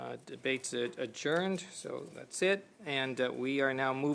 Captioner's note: speaking French